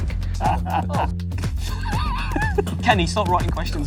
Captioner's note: laughing